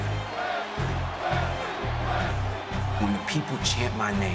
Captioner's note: crowd chants "wes lee"